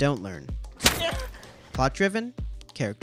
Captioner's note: slapping noise